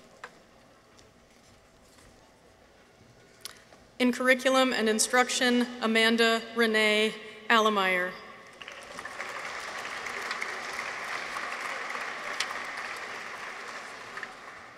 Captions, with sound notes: In Curriculum and Instruction. Amanda Renee Allemeier. (audience applauds)